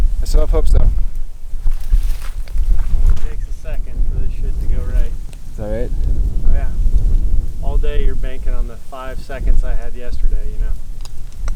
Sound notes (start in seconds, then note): none